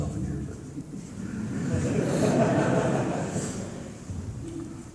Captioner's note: laughter